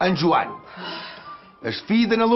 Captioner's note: sighs